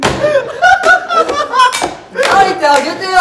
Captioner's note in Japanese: 声にならない爆笑